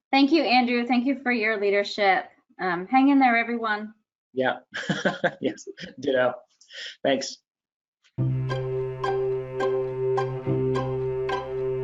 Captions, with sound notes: - Thank you, Andrew. Thank you for your leadership. Hang in there, everyone. - Yeah. (laughs) Yes, ditto! Thanks. (upbeat music)